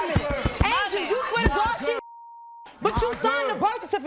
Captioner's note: beep